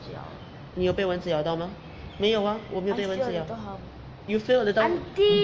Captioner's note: speaking in foreign language